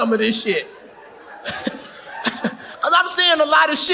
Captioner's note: audience laughs